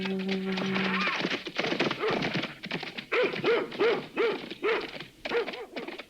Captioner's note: hooves thudding; dog barking